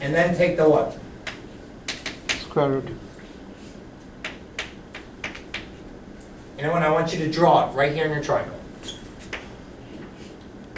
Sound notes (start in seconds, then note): 2.8 voiceover